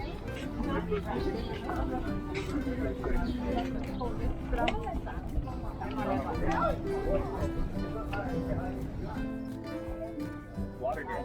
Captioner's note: people chatter